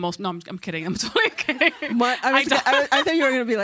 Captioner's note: laughs; audience laughs